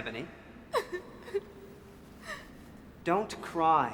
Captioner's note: weeps